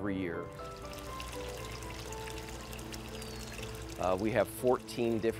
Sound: water splashes

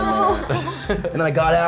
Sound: others laugh

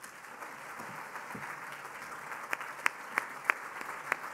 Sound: applause

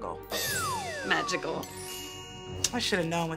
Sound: magical chime

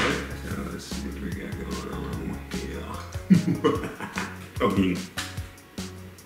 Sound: evil laugh

